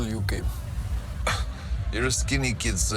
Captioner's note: Solly scoffs